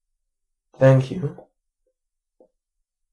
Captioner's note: big pause